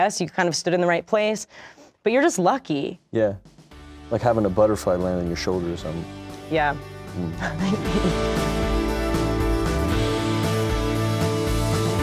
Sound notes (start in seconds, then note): 7.4 chuckles; 9.3 upbeat music